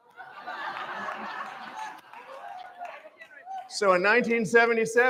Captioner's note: laughter